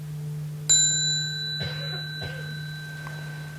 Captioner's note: small bell